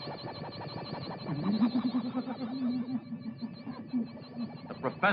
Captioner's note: manic giggling